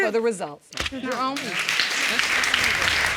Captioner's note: audience applauding